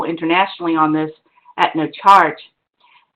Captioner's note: none